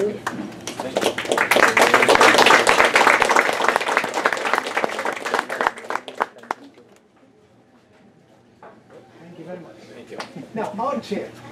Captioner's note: applause